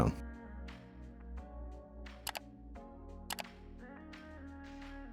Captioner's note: keyboard clicking